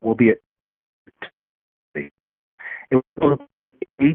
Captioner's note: faintly speaking